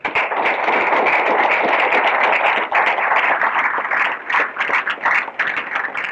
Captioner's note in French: Applaudissements